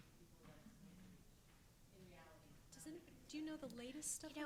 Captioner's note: footsteps drown out speaker